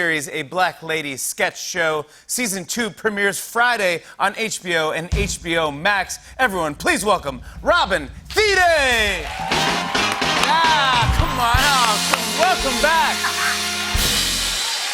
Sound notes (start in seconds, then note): 9.1 cheers and applause